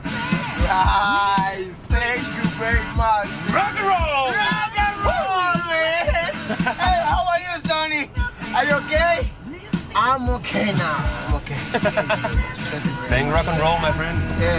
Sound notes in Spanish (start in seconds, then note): 5.8 Risas; 11.4 Risas